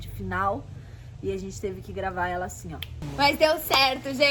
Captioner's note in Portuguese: snap